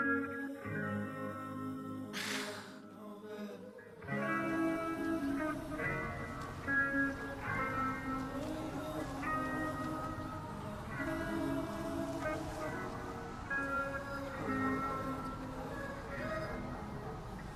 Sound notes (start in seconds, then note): 2.3 Cassie sighs; 14.1 soft music continues